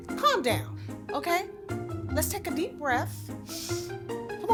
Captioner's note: inhales